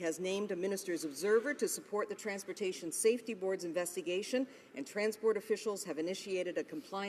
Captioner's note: none